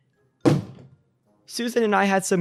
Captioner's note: object clatters